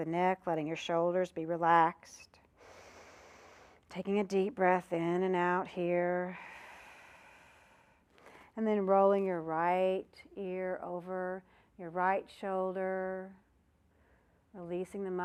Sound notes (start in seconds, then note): 6.3 breath sound